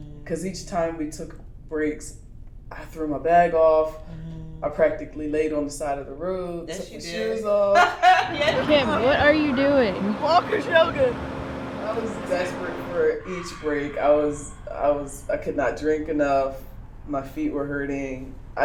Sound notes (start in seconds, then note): 7.6 laughter